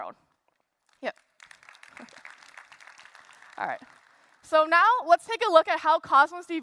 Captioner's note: applause